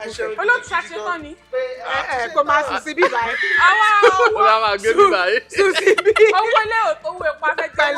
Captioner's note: everyone laughs